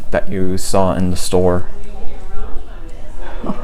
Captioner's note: chuckles